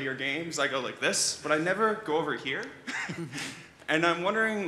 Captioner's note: laughs